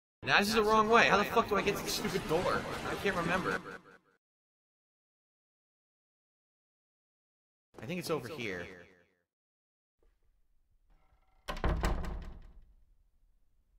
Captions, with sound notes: Nah, this is the wrong way, how the f**k do I get to this stupid door? I can't remember. I think it's over here... (door shuts)